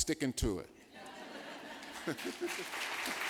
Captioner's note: applause